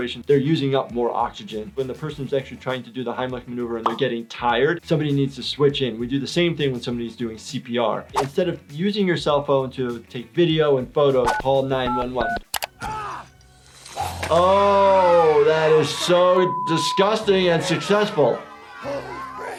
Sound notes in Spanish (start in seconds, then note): 11.8 grita; 14.4 los niños aplauden; 18.4 se ríe